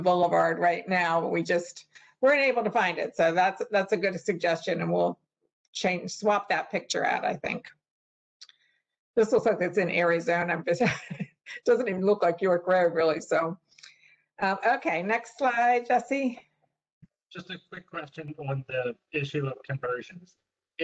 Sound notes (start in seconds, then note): 10.8 laughter